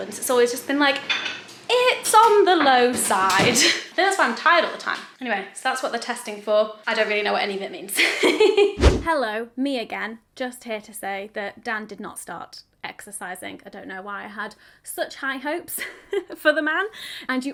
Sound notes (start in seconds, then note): 8.2 laughs; 8.8 video swooshes